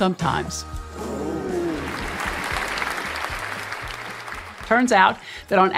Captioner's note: applause